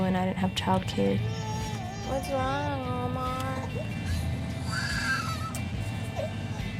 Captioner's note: baby crying